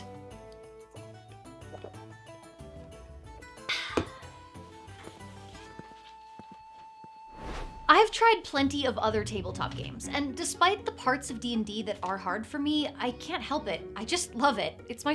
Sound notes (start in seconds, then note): 0.1 bright string music; 3.7 sighs loudly; 7.3 screen whooshing